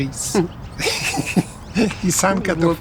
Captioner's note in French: rires